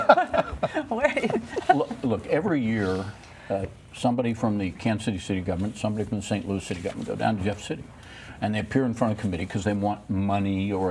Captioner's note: laughter